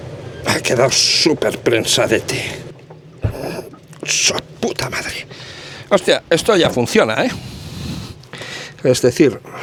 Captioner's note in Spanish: resoplido